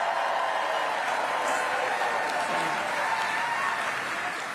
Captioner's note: applause